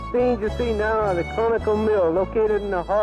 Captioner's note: radio Announcer